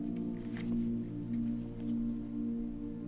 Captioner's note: page turning